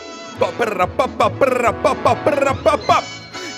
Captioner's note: toot toot; singing